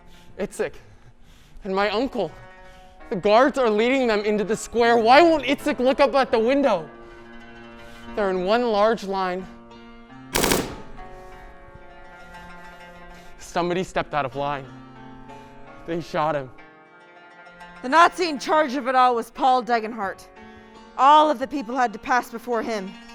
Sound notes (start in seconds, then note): 10.3 shots fired